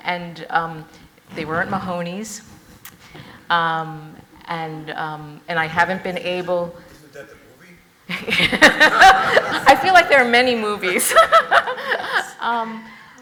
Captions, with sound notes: And they weren't Mahoneys. And I haven't been able. - Isn't that the movie? (audience laughs) - I feel like there are many movies,